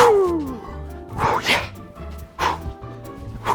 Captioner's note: breathes briskly